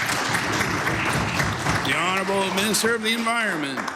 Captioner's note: applause